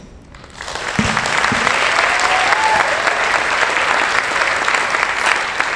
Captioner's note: audience applauding and cheering